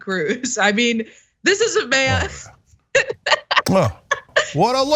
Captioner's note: laugh